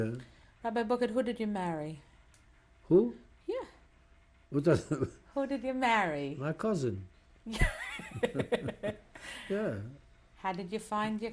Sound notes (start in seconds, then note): 4.7 laughs; 7.5 laughter